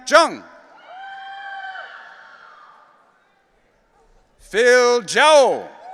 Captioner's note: audience cheering